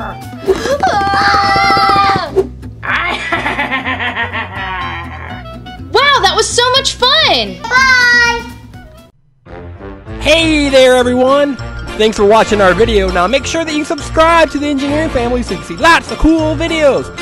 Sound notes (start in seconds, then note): 0.6 screaming; 2.9 laughs loudly